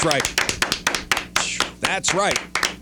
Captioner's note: clapping